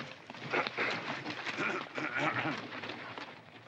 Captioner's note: Mr. Douglas clears his throat